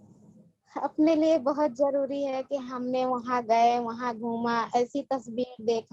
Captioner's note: speaks foreign language